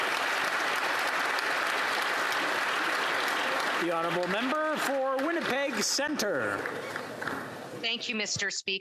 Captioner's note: applause